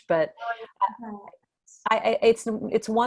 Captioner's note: audio glitch